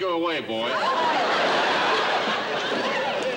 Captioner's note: laughter